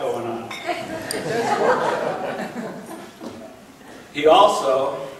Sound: laughing

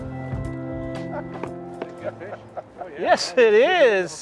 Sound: laughing

